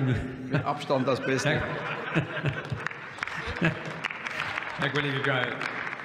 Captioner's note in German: Heiterkeit bei der CDU/CSU